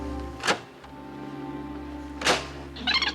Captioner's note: stirring music; stop button clicks; switch button clicks; tape warbling